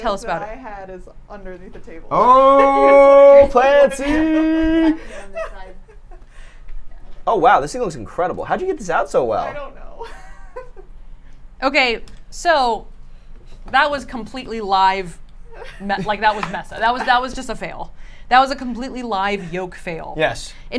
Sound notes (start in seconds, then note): 3.8 laughing; 11.1 laughs